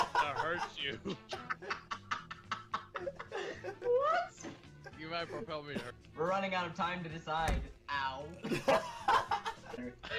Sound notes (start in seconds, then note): 0.8 cracking up; 8.4 laughing